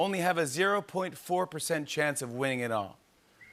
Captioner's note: none